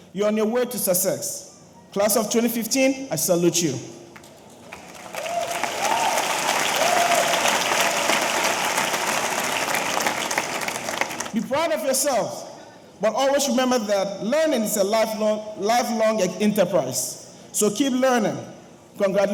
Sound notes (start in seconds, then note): 4.2 audience applauding; 4.6 audience cheering